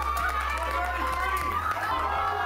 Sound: onlookers cheering

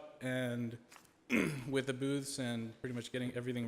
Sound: clears throat

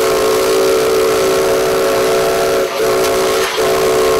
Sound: whistle blowing

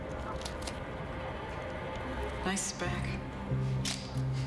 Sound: knife retracts

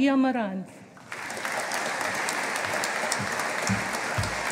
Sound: audience applauding

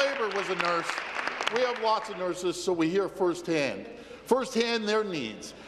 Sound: applause

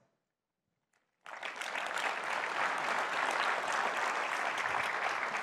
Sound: audience applauds

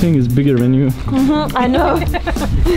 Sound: laughing

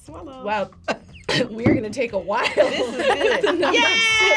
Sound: coughs; laughs

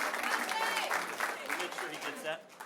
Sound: cheering; applause

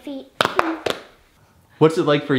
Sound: hands tapping

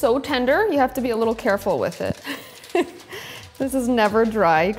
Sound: laughs

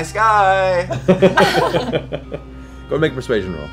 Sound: laughter

